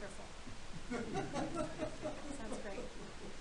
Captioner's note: all laughing